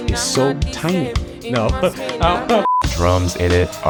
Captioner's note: laughs